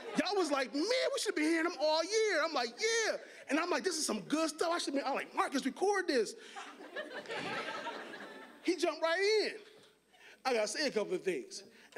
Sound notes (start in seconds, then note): 6.6 audience laughing